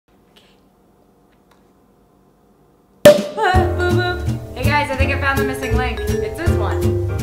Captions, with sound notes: (cork pops) - Ahh, boop boop! Hey guys, I think I found the missing link. It's this one.